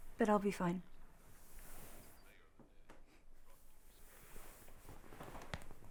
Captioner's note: muffled chatter on TV